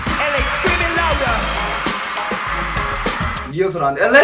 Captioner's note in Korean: 함성